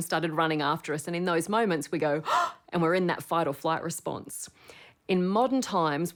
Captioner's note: gasps